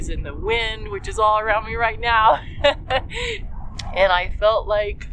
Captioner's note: laugh